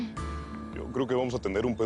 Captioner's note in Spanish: Suspiros